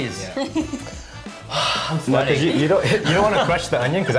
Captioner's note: sighs